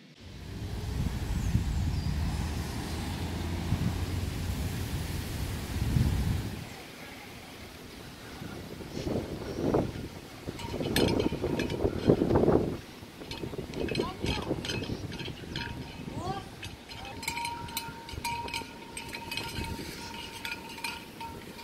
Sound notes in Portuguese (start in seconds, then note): 0.1 som do vento; 11.0 ruído tilintar dos azulejos girando; 11.0 ventania ao fundo